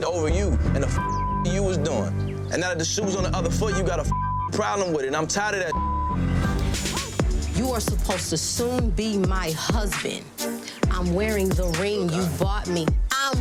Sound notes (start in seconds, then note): 1.0 beeps; 5.7 beep